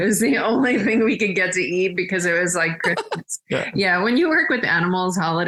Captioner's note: everyone laughs